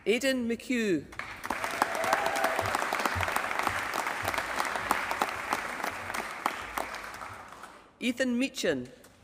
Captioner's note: applause